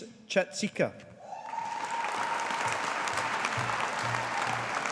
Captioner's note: audience applauding